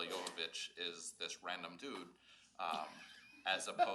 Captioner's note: laughs